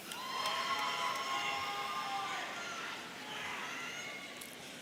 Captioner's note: audience cheering